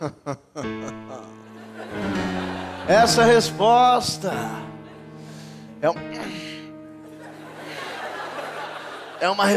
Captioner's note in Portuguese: riso; gemido